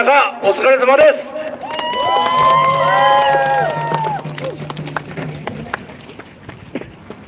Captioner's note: applause